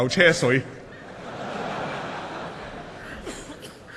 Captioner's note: laughter